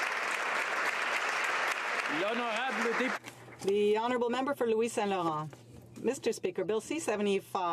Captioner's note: applause